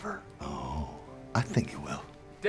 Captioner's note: scottish accent